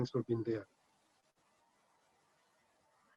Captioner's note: speaking spanish